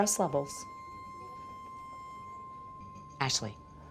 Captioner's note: piercing electronic tone